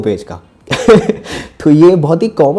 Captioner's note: laughs